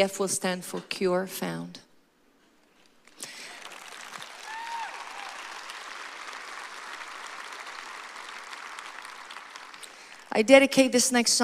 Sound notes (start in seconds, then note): 3.1 applause